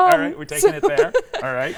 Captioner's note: laughing